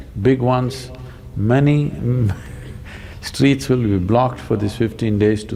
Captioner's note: laughs